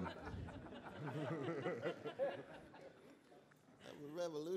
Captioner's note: laughter